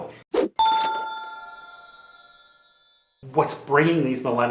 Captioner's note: bell dings